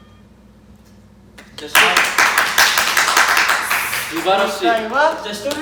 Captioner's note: all clap